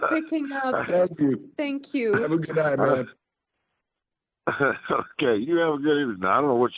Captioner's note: laughter